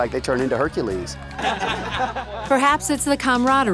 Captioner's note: laughter